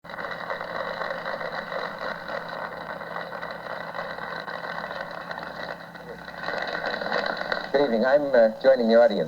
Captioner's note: applause